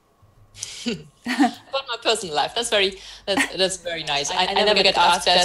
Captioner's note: laughs